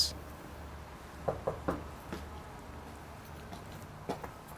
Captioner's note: knocking on door